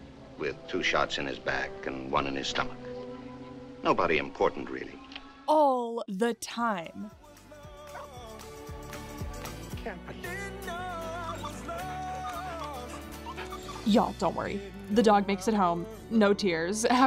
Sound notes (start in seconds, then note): 6.7 upbeat music; 11.6 dog barking